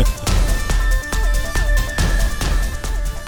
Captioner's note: none